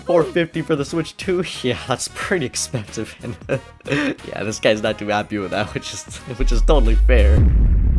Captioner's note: laughs